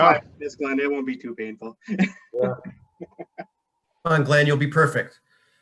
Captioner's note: laughing